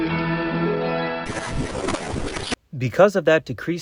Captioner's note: radio static